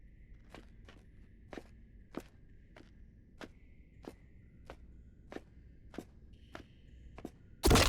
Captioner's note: sound of footsteps; sound of something hitting object